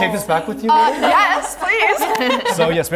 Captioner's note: members laughing